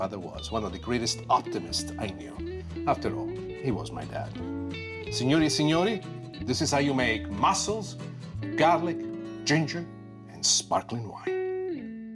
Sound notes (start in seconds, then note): 5.0 speaking in foreign language